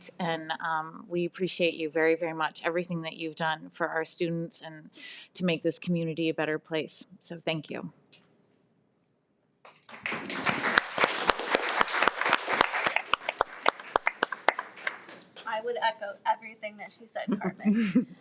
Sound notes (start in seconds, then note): 9.7 everyone applauds